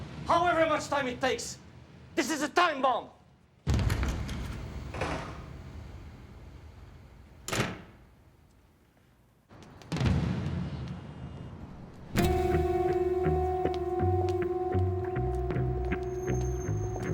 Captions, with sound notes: however much time it takes! This is a time bomb! (door slams) (tense music) (footsteps shuffle) (heels clack)